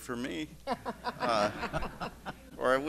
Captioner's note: laughter